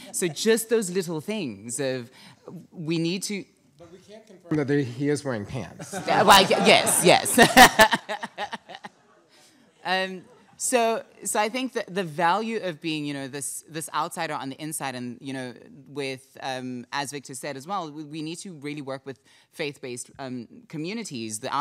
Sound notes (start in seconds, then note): 5.8 audience laughing; 5.9 laughs